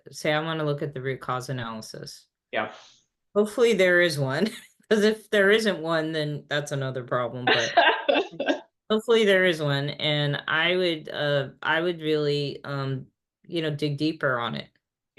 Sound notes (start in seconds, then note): 7.4 laughing